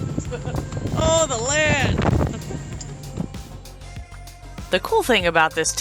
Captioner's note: nervous laughter